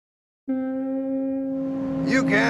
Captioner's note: ship horn blowing in distance